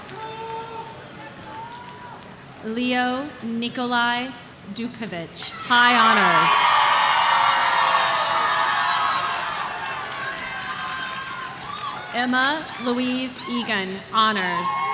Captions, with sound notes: Leo Nikolai Dukovich, high honors. (audience cheering) Emma Louise Egan, honors.